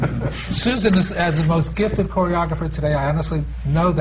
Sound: laughter

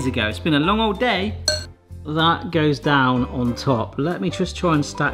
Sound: glass tinkles

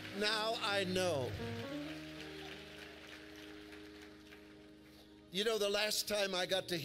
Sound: congregation claps

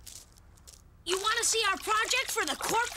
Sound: water sloshing

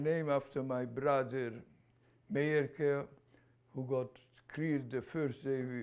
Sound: non-english

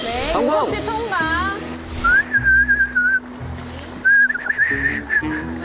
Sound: vibrating whistle, passed too

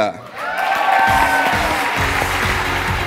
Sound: cheering, applause

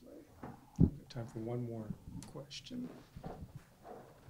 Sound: voiceover

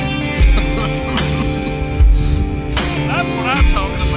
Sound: man laughing

